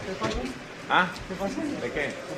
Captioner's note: speaking Spanish